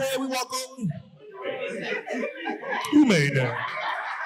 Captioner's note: audience laughing